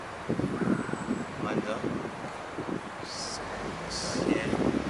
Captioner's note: wind howling